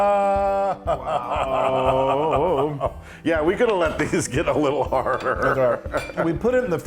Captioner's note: laugh